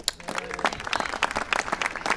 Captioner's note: applause